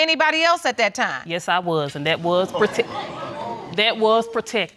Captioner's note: audience exclaiming